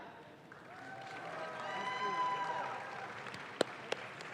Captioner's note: audience claps